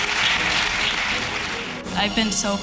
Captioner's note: applause